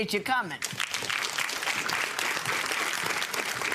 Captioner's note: clapping